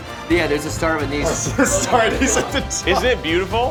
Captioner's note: laughing